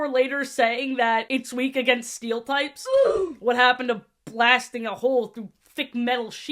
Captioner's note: oof sfx